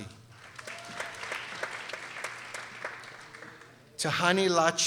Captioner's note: people applauding